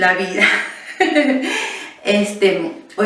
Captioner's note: laughs